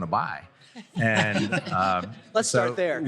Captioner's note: laughter